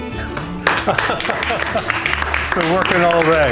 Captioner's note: applause